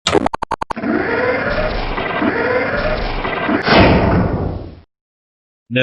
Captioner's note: Rocket Wagon transforming